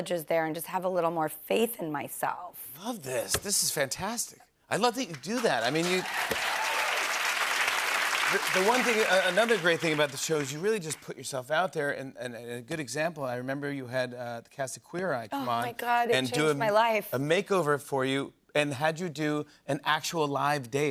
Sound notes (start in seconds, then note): 5.2 cheers and applause